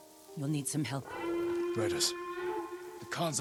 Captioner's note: alarm